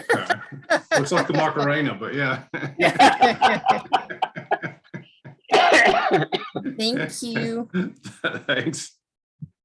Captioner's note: laughter